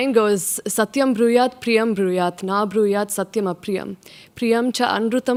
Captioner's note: speaks in foreign language